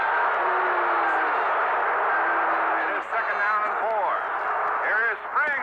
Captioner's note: crowd booing